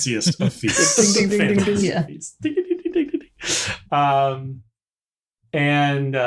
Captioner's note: imitating Fancy Feast commercial